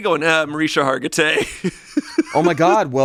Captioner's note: laughs